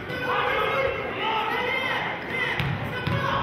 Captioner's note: yelling